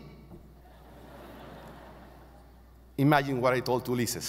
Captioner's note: audience laughing